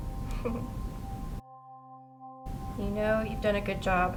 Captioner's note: laughs